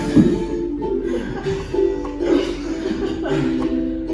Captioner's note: both chuckling